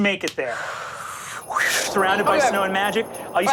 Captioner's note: mimics air whooshing